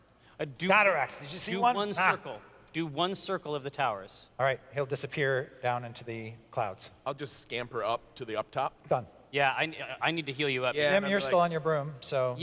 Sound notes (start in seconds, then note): none